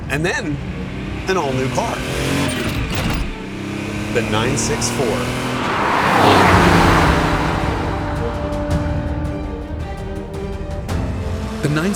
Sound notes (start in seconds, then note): 2.7 engine revs; 7.1 dramatic music